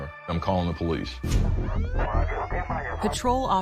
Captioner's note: siren wailing